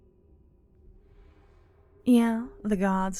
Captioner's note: sarcastically